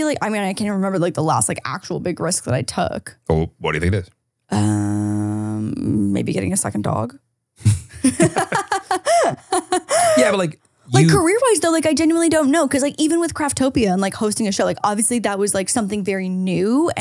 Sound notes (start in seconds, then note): 7.6 laughing